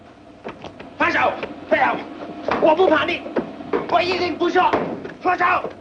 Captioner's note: yells in foreign language